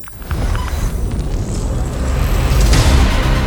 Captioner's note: electronic buzzing; air whooshes; intense electronic music